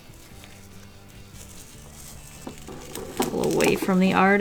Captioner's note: tape peeling action